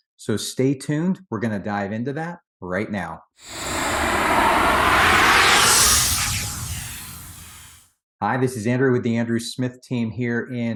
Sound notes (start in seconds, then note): 3.4 air whooshing